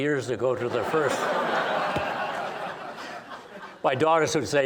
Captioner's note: laughing